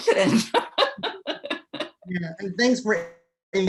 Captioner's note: laughing